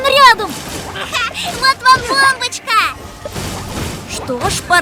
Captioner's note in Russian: смеется